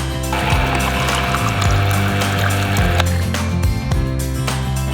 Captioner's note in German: Beifall